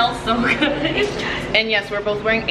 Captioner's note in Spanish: se ríe